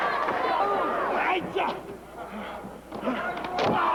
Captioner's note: crowd cheering